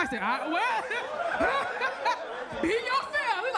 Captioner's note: all laugh